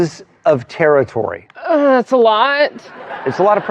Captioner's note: laughter